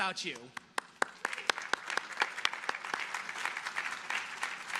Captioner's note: audience applauding